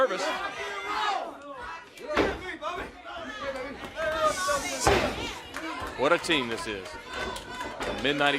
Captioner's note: crowd chatter